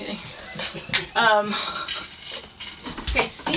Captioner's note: chuckling